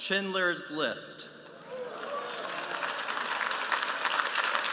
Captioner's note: applause